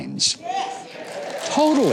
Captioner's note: audience cheering